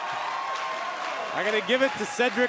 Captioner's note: crowd cheering